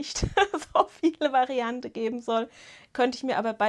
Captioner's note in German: Gelächter